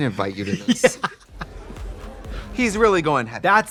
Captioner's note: laughing